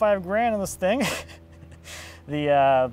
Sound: snickers

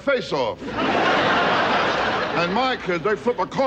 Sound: audience laughing

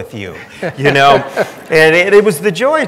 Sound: everyone laughing

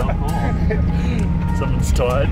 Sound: laughs

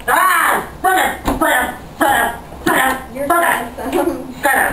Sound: elderly temper tantrum

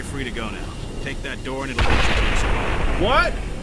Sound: explosion

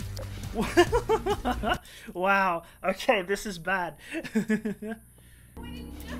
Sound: laughing

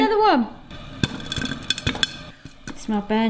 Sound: popcorn popping

